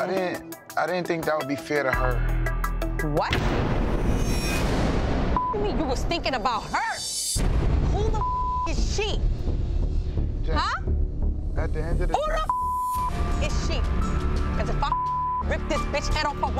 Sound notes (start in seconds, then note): 4.0 upbeat dramatic music; 8.1 beep; 12.2 beep; 14.6 beep